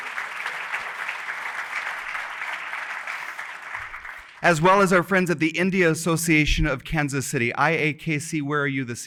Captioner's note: applause